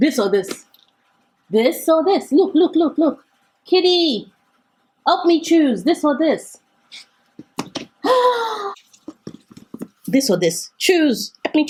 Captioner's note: sigh